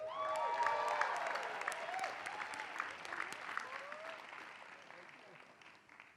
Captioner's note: applause